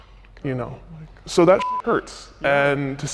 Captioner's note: beep